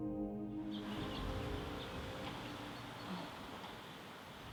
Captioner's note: bird chirping